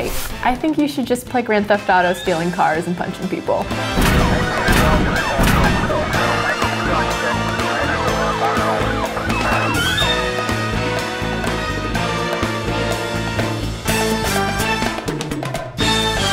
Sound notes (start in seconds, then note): 3.9 sirens; 10.2 upbeat jazzy music